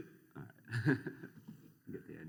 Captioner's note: laughter